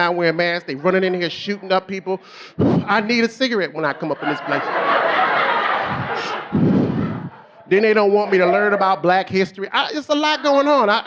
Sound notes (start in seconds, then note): 2.2 puffs; 5.8 puffs; 5.8 audience laughing